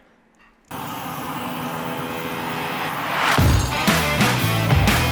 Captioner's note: torch flame roaring; upbeat music